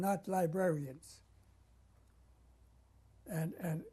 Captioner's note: pauses for 3 seconds